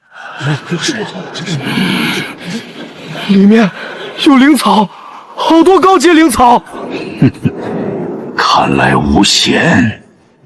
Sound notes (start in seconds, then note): 6.6 steps; 7.1 grunts